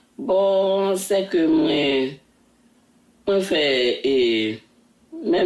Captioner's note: speaking in Creole